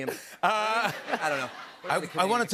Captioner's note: laughter